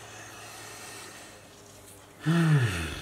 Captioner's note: sighs slowly